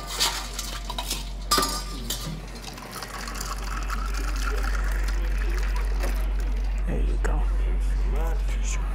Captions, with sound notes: [utensils clanking] [drink pouring] - There you go. - Thank you very much.